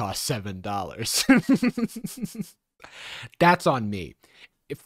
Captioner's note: laughing